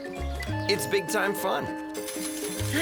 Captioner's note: slot machine sound